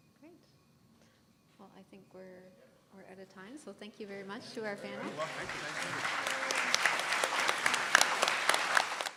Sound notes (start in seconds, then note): 4.9 applause